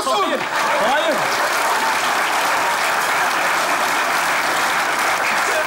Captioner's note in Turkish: Alkış sesleri